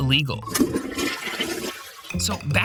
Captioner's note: toilet flushing